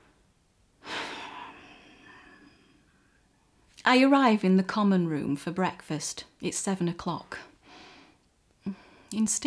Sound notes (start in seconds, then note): 0.9 sighs loudly